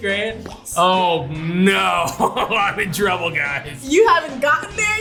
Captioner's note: laughs